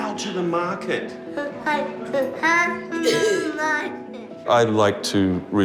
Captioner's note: coughs